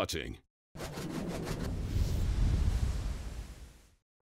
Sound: whosh sound

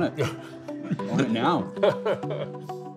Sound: laughs

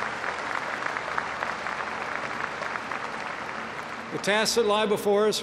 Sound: applause

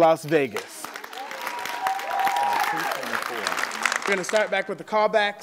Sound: applause

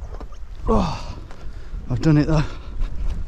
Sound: groans

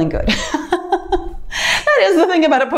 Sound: laughs

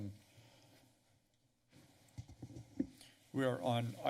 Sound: pause

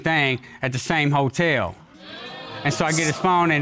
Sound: audience exclaims

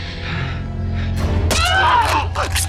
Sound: yells

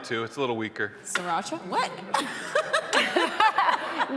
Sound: audience laughing; laughs

